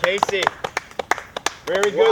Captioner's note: clapping